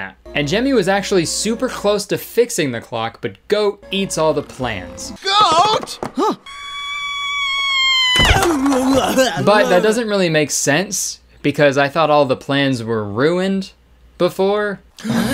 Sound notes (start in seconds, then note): 6.2 goat screaming; 15.0 shocked gasping